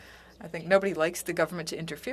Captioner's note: speaking French